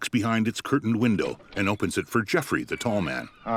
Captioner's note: door creaking